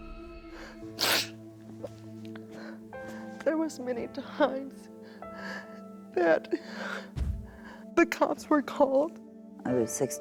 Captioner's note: sobs